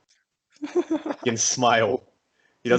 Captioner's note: laughs in high pitch